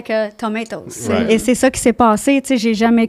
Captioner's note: in french